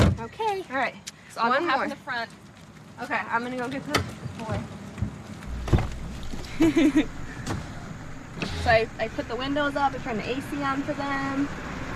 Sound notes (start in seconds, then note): 6.4 chuckles